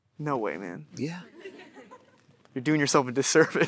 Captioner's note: audience chuckling